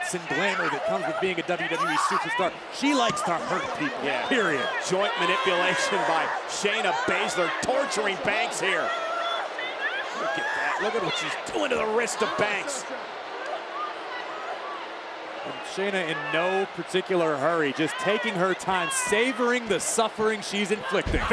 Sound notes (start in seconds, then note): 14.2 crowd cheers and jeers